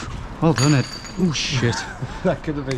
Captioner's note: bottles clanking